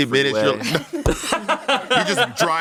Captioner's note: everyone laughs